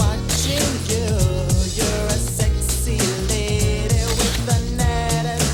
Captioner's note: camera shutter clicks